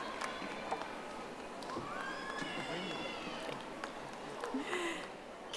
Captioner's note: audience applauding